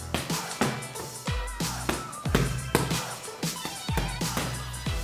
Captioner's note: gloves hitting hands